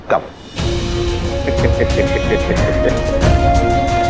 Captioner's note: Karan giggling